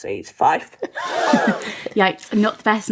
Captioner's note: laughing